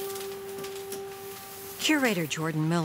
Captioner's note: paper rustling